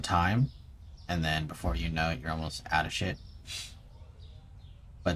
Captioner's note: sniff